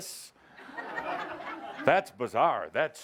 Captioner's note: laughter